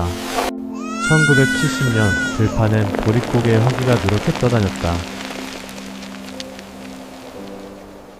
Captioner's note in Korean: 울음